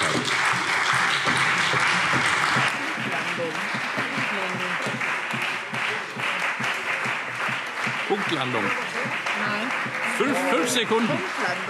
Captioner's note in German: Anhaltender lebhafter Beifall CDU und BÜNDNIS 90/DIE GRÜNEN